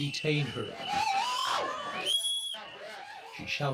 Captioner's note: whistles blowing; driver screaming